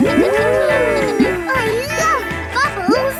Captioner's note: kids gasping and laughing